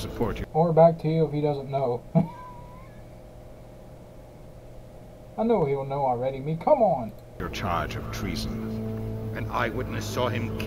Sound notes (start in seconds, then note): 2.1 laughs